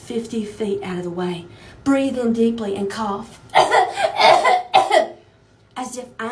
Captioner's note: fake cough x3